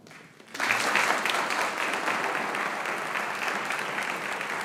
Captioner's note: audience applauding